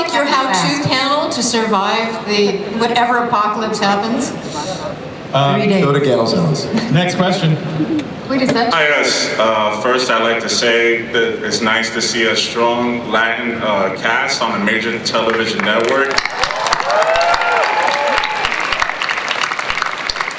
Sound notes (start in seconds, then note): 8.8 voiceover; 15.2 applause